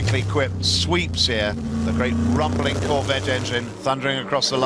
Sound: the great rumbling corvettte engine

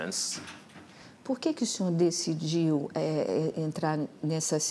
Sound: speaking portuguese

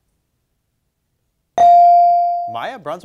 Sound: bell dings

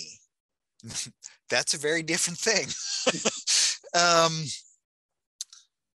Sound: laughing

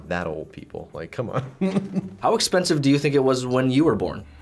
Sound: chuckles

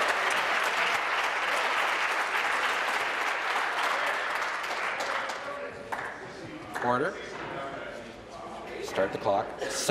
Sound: applause

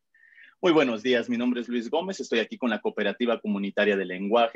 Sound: Spanish speaking

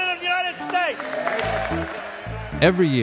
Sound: crowd cheers

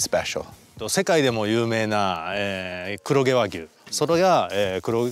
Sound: speaking in Japanese

